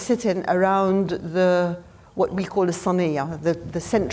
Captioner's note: speaking foreign language